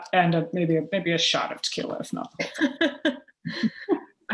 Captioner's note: laughter